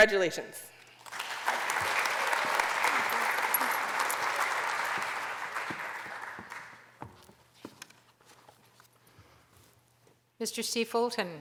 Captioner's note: applause